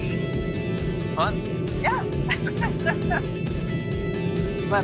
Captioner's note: laughs